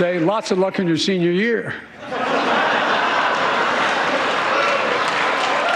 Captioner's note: applause